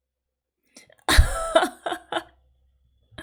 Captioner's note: laughs